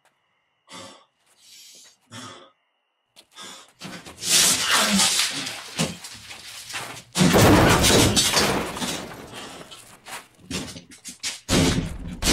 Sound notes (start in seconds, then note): 4.4 clanging